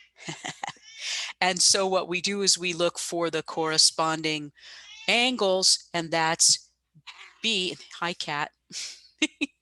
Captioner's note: laughs